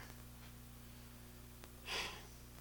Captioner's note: sigh